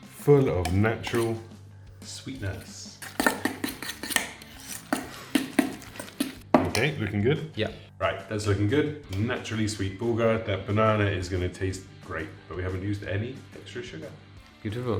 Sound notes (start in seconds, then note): 2.3 fork mixing